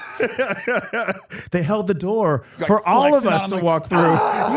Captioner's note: laughs